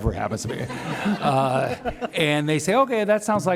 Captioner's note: laughs